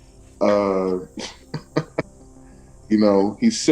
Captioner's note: laugher